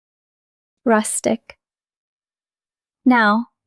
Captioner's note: pause